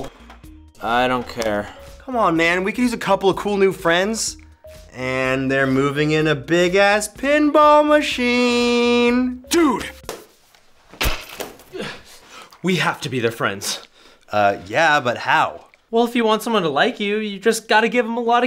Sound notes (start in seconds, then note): 11.0 laptop breaks